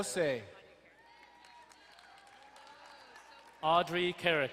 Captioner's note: crowd cheering and applauding